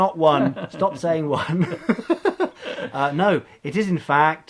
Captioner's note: laughs